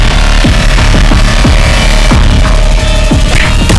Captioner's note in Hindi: none